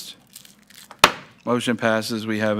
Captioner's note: gavel thuds